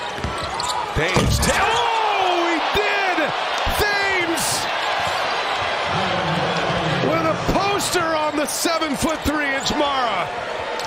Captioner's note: crowd noise; cheers and applause